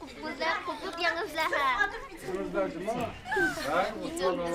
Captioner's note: children speaking Uyghur